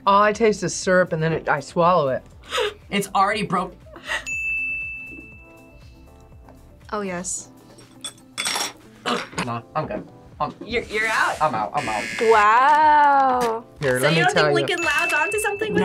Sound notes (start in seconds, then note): 4.2 bell rings; 9.0 gags